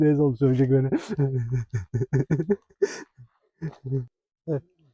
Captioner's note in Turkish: kahkaha